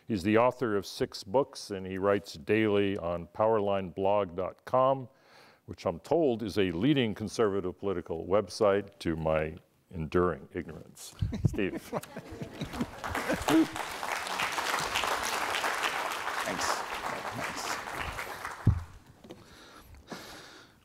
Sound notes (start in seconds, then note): 11.3 snickering; 12.6 applause